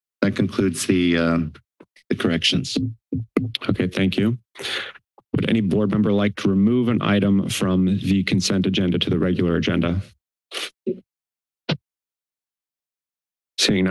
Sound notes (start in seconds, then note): 3.1 mic thumps; 4.6 inhales; 10.1 silence